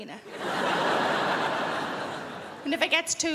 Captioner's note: crowd laughs